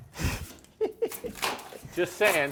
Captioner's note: laughing